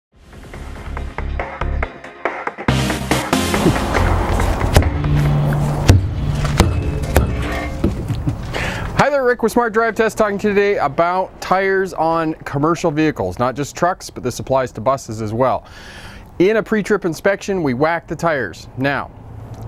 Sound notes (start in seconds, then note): 3.6 banging tires with a hammer